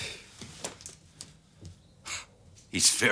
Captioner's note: sighs